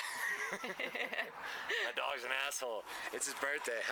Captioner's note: laughter